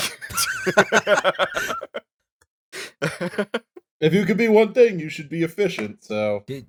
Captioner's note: laughter